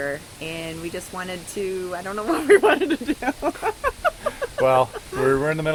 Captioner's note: laugh